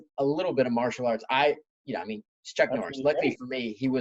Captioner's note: laughing